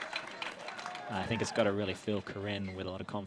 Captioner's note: applause